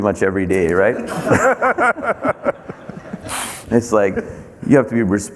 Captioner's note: everyone laughing